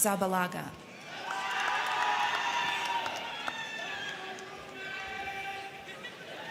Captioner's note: crowd cheering; crowd clapping